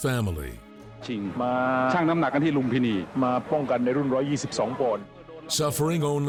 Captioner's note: referee speaking in foreign language